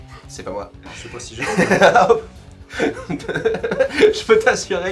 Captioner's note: weirdest laugh ever